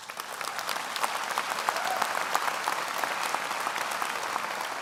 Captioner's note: audience applauds